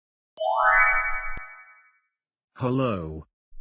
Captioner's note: chimes